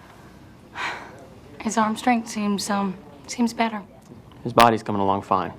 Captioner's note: sighs